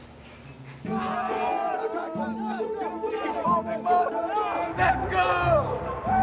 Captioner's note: candidates yelling